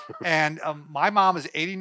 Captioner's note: laughs